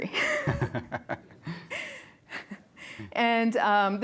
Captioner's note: giggles